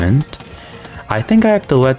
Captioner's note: inhales Oxygen